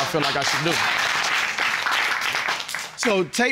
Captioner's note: audience applauding